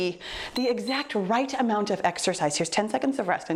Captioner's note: timer beeps